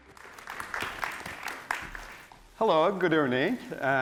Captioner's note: audience applauds